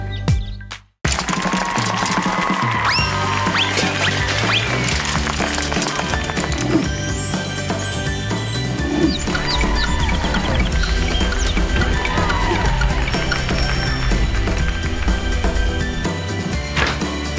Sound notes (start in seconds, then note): 1.0 applause; 9.3 applause